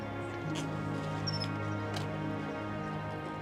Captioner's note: blades creaking